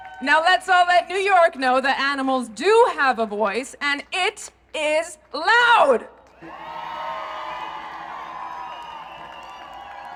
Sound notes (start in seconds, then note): 6.2 applause